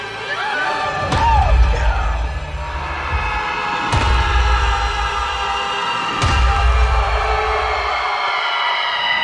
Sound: screams

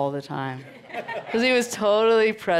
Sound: crowd laughs

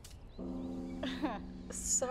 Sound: scoffs

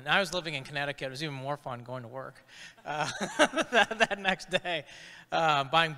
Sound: chuckles

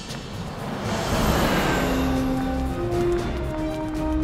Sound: bus speeds off

